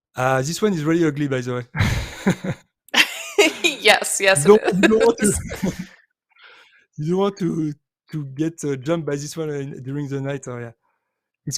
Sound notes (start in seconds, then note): 1.7 chuckles; 3.0 laughs